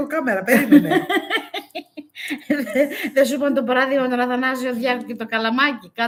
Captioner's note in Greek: γέλια